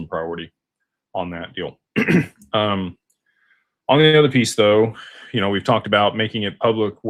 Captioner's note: clears throat